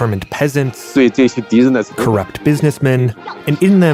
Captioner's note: speaking Mandarin Chinese